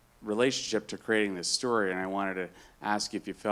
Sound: none

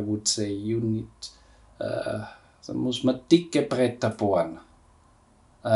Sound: speaking in German

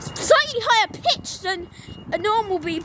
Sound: beeper

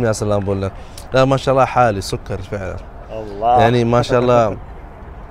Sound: Arabic

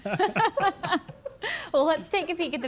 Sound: all laughing

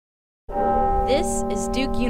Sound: bell tolls

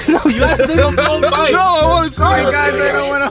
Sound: laughs

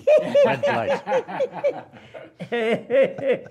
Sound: laughter

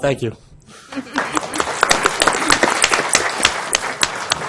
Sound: applause

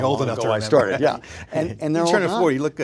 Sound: laughs

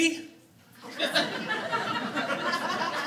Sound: audience laughing

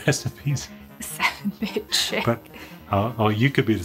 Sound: laughing

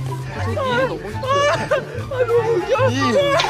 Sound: can't stop laughing

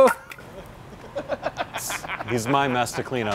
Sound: laughing

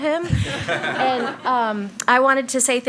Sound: attendees laugh

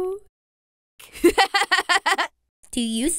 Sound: giggle

